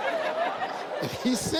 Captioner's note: audience laughs